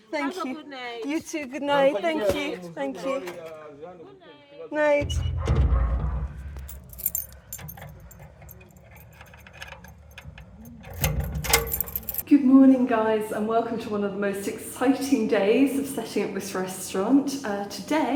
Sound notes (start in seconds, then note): 6.5 keys jangling; 11.0 lock clanking